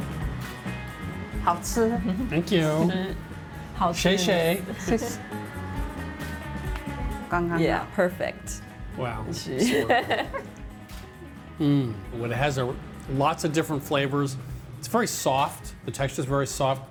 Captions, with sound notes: - Thank you. Xiexie. - Perfect. - Wow. (laughter) Mmm, it has lots of different flavors. It's very soft, the texture's very soft.